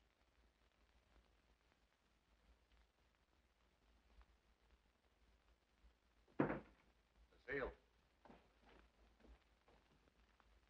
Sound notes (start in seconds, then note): none